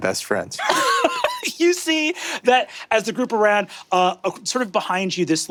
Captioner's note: laughs